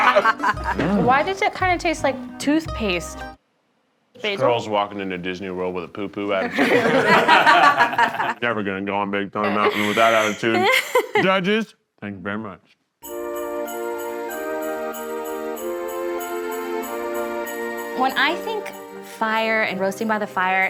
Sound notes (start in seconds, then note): 6.4 all laughing; 9.5 laughing; 13.0 mellow festive music